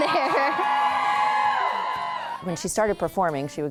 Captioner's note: crowd cheers